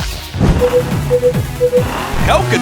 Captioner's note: beeping